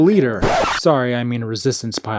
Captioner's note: record scratch